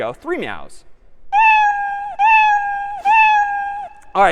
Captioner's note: meowing